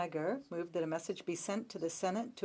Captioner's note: speaking French